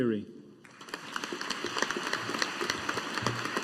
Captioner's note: audience applauding